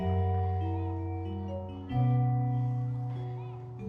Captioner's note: children and playground noises in background